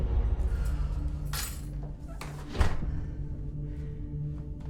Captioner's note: sighing; keys clank